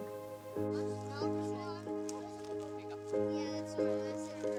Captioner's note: children chattering